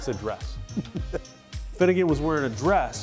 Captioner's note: laughs